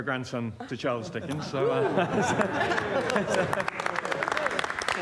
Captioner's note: excited reaction and applause